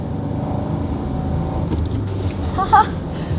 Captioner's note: car running; laughing